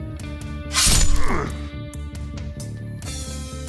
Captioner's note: stabbing sounds